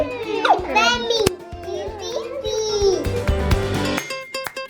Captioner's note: children chatting; upbeat music